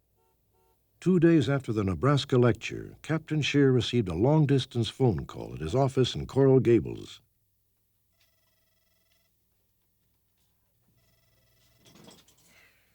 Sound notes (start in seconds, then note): 8.1 phone rings